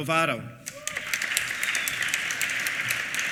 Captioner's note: applause